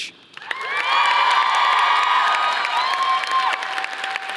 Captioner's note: audience applauding